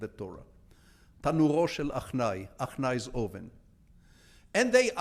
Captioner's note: speaking in foreign language